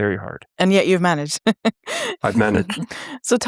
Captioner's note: chuckles